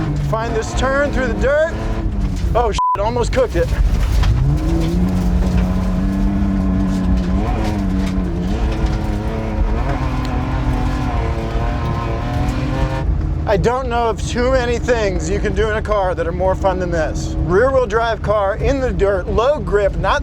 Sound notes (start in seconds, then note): 2.7 beep; 5.2 car revving loudly